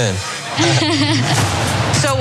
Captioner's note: laugh